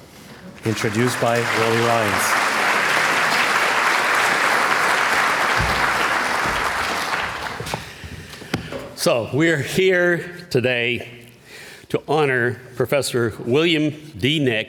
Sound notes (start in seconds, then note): 2.7 applause